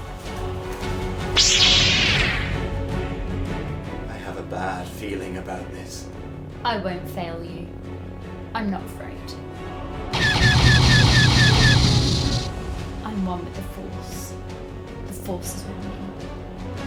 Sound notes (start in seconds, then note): 1.1 dramatic music; 1.3 lightsaber activating; 10.1 blasters firing